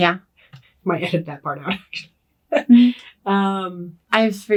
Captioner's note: laughs